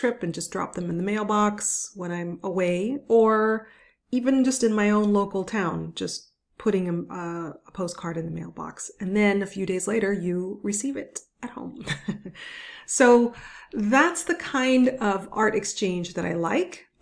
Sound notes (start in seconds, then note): 11.8 chuckles